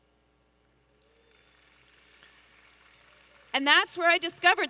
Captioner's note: audience applauding